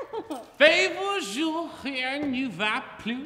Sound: speaking french

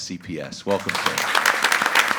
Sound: group applauding

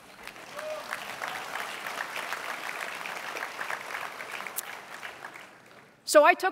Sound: applause

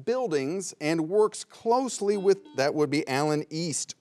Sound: buzzer bleeps twice

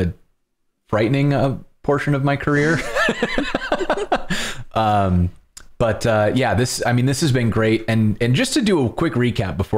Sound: laughter

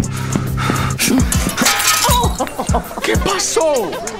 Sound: hastened footsteps; crash

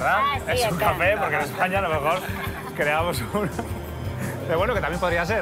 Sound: laughs

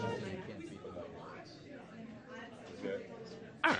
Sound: speaking faintly

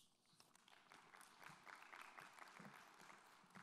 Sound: applause

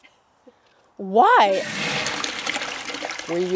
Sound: toilet flushing

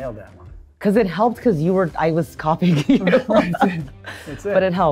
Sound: laughs

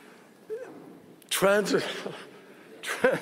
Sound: laughter

